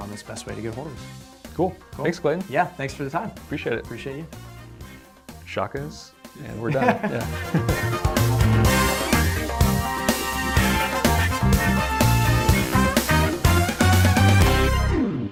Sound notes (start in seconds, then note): 6.5 laughs; 8.1 upbeat music